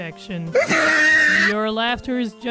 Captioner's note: wheezing laughter